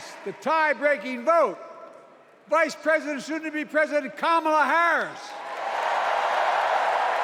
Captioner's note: cheers and applause